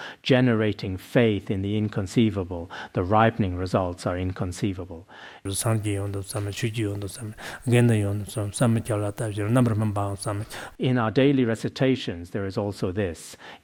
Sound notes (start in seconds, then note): 5.4 citing scripture in Tibetan